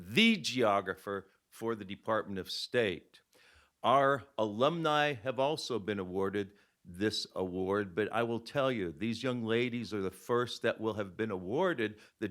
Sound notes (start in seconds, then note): none